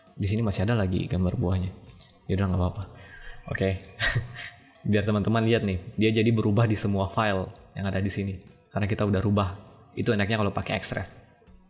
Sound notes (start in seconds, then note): 4.0 chuckles